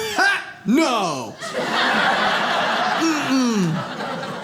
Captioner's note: audience laughs